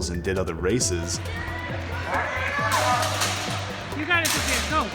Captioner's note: crowd cheering